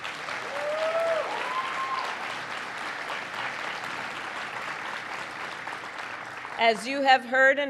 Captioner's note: applause